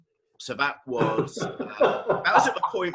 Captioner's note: laughing